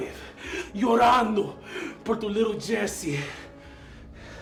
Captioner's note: Spanish